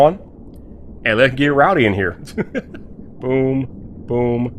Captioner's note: laughs